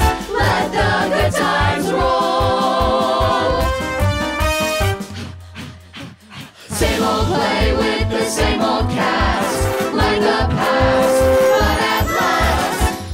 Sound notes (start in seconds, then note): 4.3 group panting